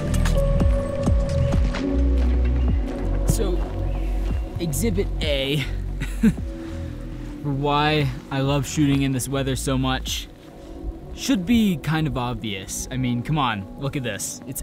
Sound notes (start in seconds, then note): 5.9 chuckles